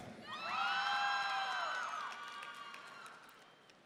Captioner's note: audience cheering